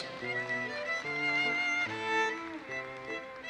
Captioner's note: audience applauses